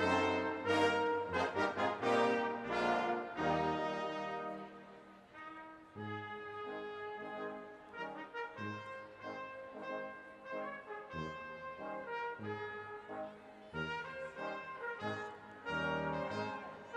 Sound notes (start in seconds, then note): none